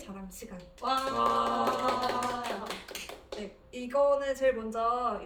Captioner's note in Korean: 박수